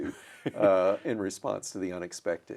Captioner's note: chuckles